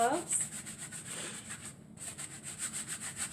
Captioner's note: scrubbing sounds